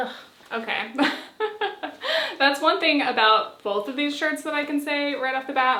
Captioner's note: laughs